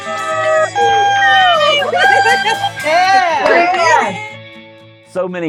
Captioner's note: cheering